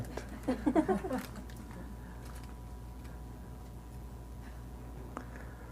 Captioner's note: participants laughing